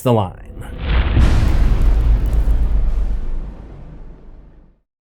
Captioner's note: impact